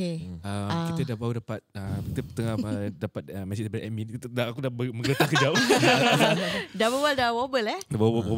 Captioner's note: stuttering